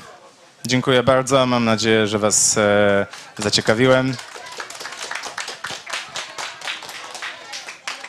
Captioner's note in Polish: oklaski